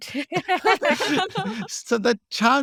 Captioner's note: laughing